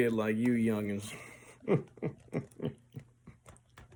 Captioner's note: grandad Laugh